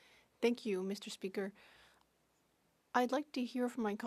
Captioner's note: speaking French